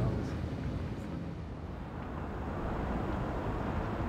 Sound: traffic

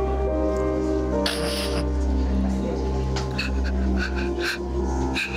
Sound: sobbing softly

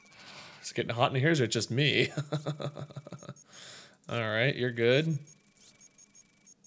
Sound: fake laughing

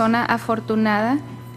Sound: speaking foreign language

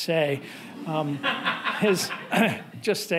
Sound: audience laughing

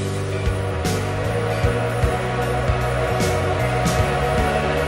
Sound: distant steam whistle

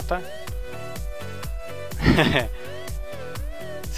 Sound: laughs

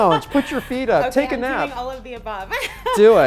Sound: laughs

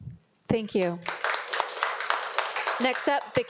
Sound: audience applauding

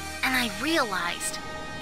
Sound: none

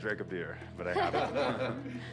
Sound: laughing

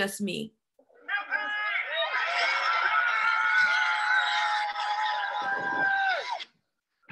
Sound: crowd cheering

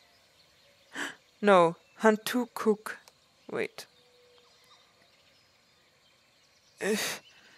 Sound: gasps

